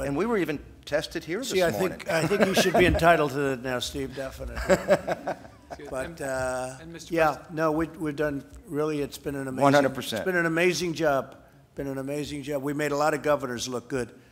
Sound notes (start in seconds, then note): 1.6 laughs; 4.5 laughter